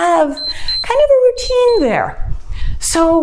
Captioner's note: timer beeps